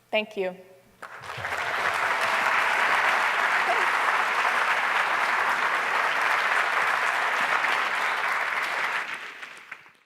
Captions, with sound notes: Thank you. [APPLAUSE] Thanks.